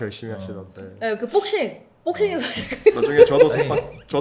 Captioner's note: ha ha ha ha